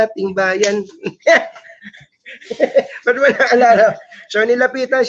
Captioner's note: laugh